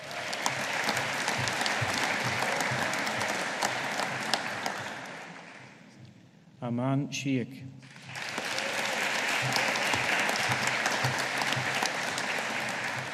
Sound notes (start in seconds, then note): 0.0 audience applauding; 7.8 audience applauding